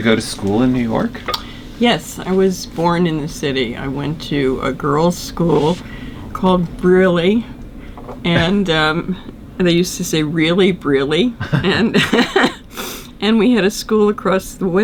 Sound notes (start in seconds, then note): 11.3 laughs